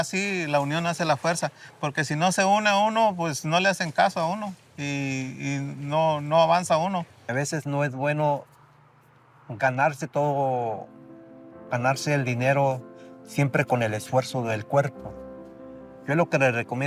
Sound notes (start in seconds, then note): 7.3 speaking in Spanish; 11.3 gentle music